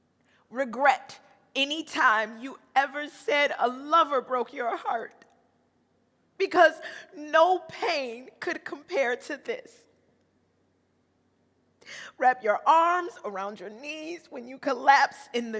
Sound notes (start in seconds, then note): none